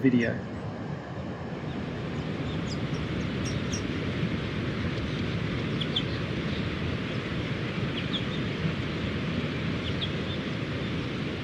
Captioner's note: waves sounds and birds chirping